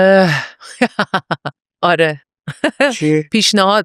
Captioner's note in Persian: خنده